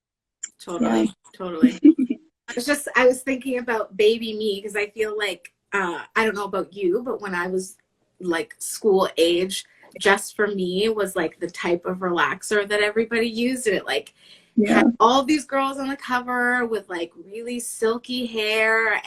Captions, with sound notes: - Totally - Yeah. - Totally. (laughing) It's just I was just, I was thinking about baby me 'cause I feel like, I don't know about you but when I was like school age, Just for Me was like the type of relaxer that everybody used and it like - Yeah. - had all these girls on the cover with like really silky hair.